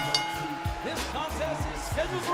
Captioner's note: bell dinging; crowd cheering